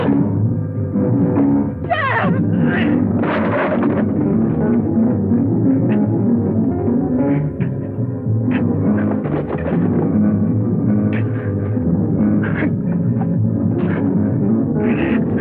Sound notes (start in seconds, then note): 0.1 gasping; 2.8 clattering; 5.9 tense instrumental music